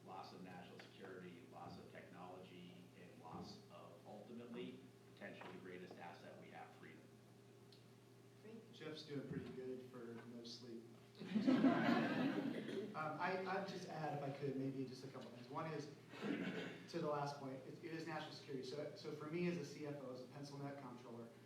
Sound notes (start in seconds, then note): 11.2 laughter